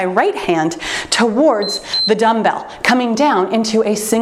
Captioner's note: timer beeps